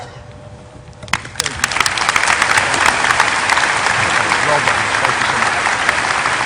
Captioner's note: applause